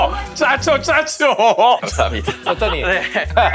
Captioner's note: chuckling